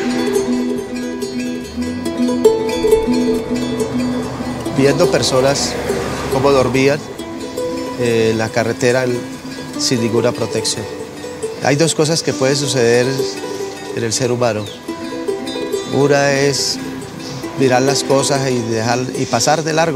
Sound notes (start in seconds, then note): 4.4 speaking spanish